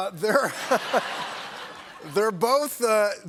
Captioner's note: laughter